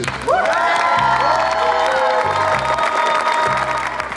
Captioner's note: cheering, applause